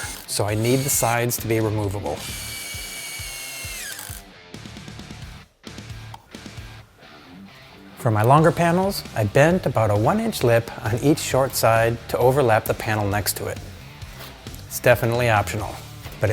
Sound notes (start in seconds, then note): 2.1 tool whirring; 2.6 intense rock music